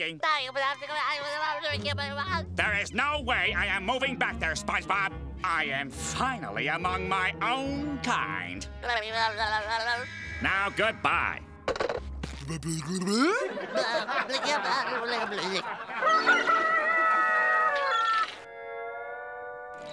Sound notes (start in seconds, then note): 0.2 SpongeBob mumbling on the phone; 8.8 SpongeBob mumbling on the phone; 16.0 rooster crowing